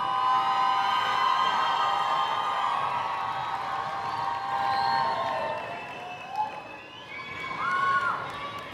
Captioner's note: applause and Cheers